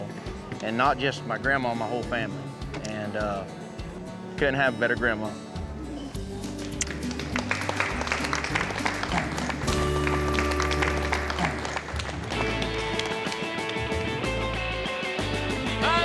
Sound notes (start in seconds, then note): 6.2 clapping